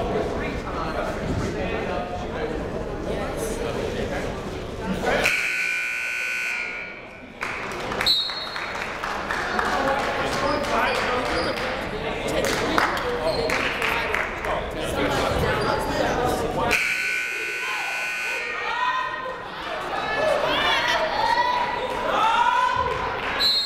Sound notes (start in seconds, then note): 5.2 buzzer ringing; 7.3 crowd clapping; 8.0 whistle tweeting; 10.5 people talking in the crowd; 16.7 buzzer ringing; 18.3 people shouting in the crowd; 23.4 whistle tweeting